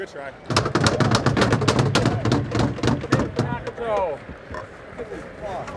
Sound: banging on plexiglass

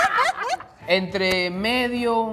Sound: laughing; speaking in foreign language

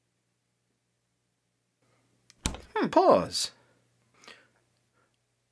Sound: click

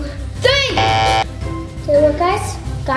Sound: beeps buzzer

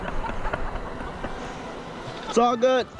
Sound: student laughing

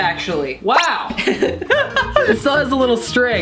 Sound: laughs

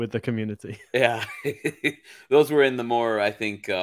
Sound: laughs

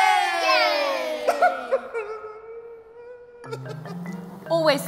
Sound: man sobbing

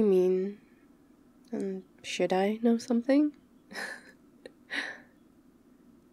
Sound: laughs

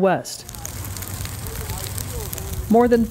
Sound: fire crackling

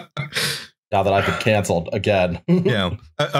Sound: laughter

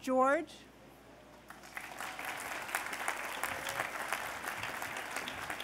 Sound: applause

